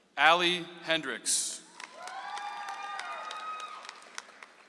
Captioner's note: audience applauds